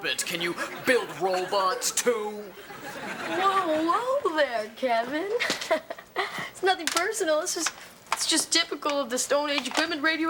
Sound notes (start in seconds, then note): 2.2 audience laughing; 5.3 laughs